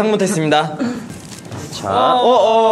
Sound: rummaging

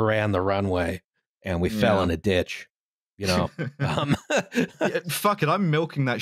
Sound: laughs

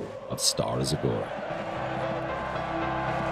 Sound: applause

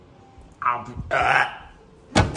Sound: heaving Crying

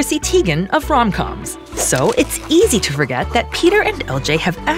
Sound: pen scratching

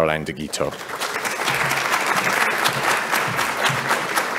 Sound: applause

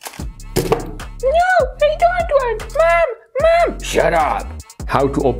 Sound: funny voices

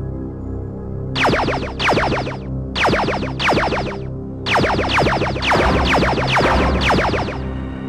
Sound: lasers firing

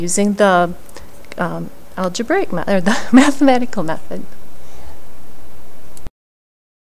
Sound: laughter

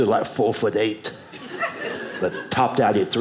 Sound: audience laughing

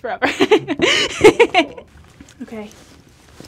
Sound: laughing

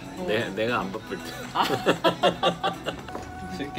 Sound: laughs

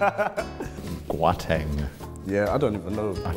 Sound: mispronouncing

